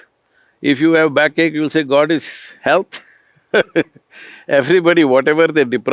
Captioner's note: laughs